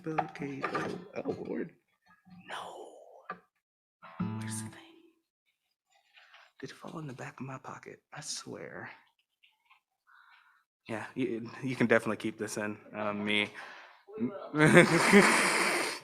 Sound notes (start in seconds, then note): 0.2 guitar rustling; 6.7 faintly speaking; 14.5 laughs